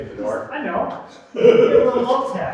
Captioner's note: laughing